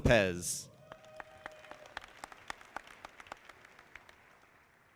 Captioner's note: audience clapping